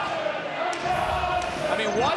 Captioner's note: crowd chanting